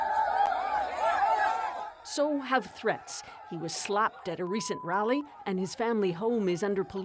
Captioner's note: crowd noise